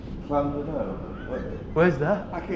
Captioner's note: laughs